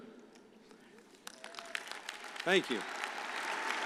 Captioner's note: audience applauding